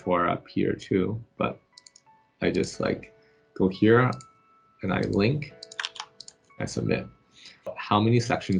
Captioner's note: click